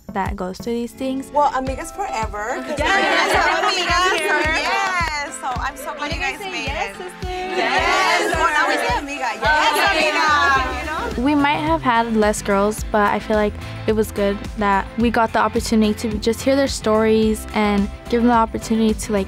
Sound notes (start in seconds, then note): 3.3 overlapping chatter